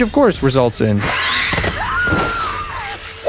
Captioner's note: scream